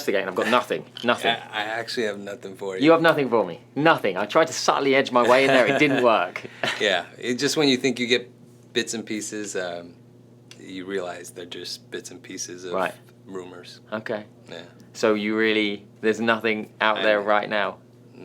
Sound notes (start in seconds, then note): 5.2 laughing